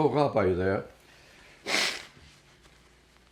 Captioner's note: wiping nose